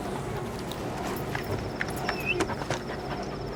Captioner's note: crickets chirping; dog panting